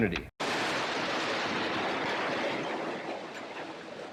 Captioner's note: rubble crashing